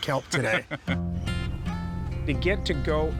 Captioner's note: laughing